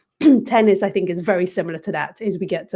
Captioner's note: cough